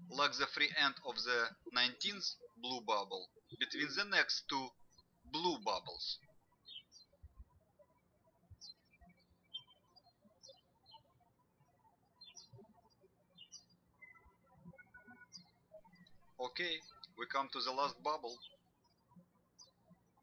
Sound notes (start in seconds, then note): 0.0 birds chirping; 7.6 birds chirping